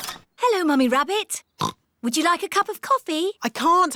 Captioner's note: oinks